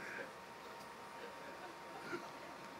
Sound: laughter

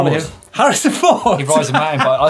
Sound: laughs

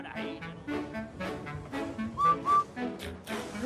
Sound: whistles

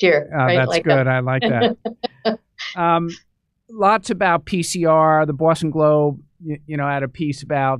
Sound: laughter

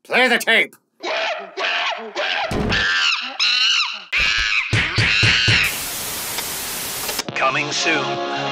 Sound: monkey noises

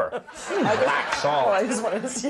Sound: audience laughing

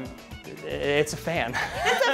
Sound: laughter

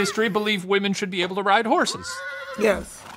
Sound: horse neighs

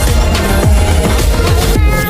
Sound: +riser

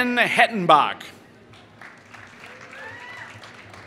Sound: applause

